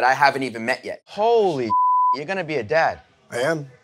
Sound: beep

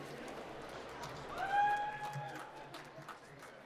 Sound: applause

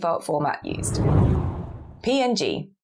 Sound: screen whooshes

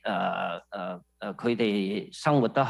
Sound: speaking non-englis

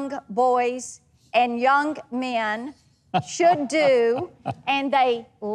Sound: Mike laughing

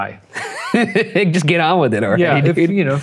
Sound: chucking

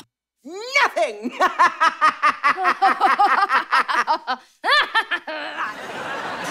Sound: laughing

